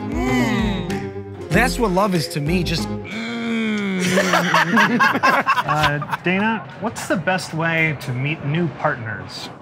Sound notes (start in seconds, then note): 4.0 laughter